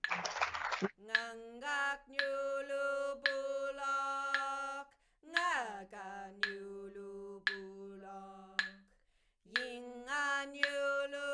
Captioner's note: singing in woiwurrung